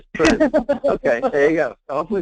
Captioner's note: laughing